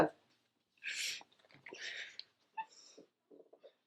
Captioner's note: crying